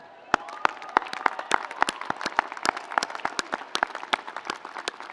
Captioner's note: audience applauding